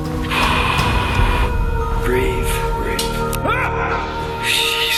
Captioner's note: loud exhaling; terrified yelling